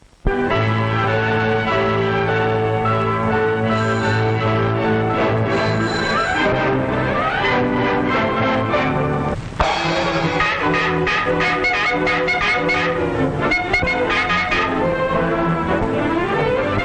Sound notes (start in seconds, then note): 9.6 cymbal crashes; 9.7 irritating honking and beeping